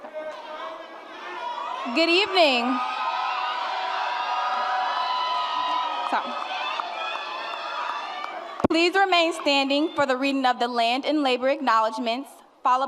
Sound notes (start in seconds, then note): 3.0 applause and cheering